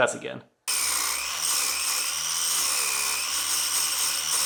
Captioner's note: grinder whirs